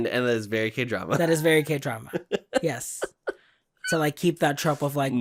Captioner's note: laughs